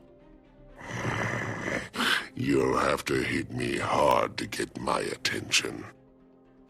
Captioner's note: growl